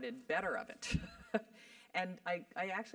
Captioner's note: laugh